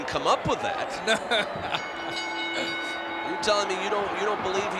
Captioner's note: laugh